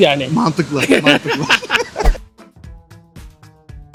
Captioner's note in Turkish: kahkaha